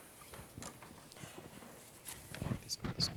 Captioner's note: microphone static